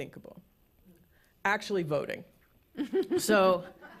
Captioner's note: laughter